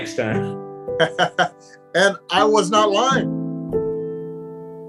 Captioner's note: chuckles